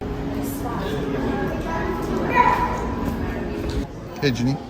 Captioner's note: resort lobby guests indistinctly chatting